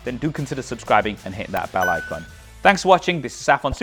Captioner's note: bell dings